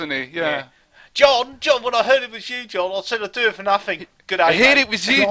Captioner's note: exaggerated Australian accent